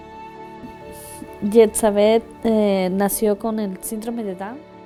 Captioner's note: foreign language